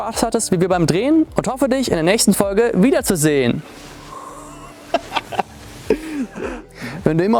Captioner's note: laughs